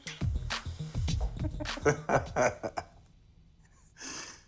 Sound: laughing

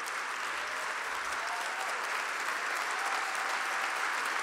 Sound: audience applauding

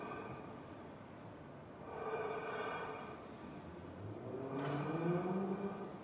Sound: rhythmic breathing continues

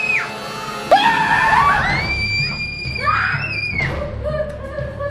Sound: everyone screaming

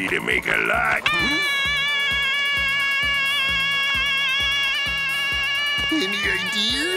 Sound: screaming

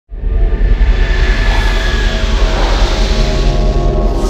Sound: logo whooshing

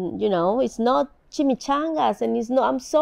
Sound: speaking in foreign language

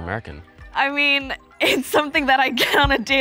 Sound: chuckles

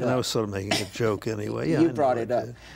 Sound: chuckles

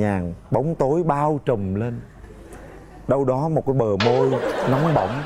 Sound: laughing and applause

